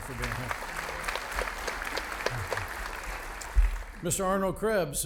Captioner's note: audience applauding